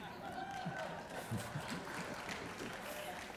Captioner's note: applause